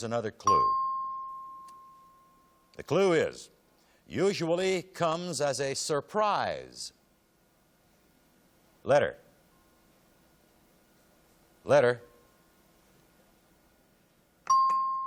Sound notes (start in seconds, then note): 0.4 ding